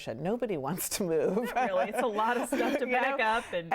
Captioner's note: laughing